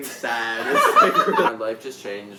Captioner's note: jazzy laughing